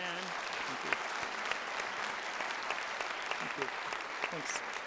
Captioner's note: audience applauds